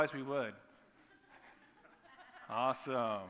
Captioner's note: laughter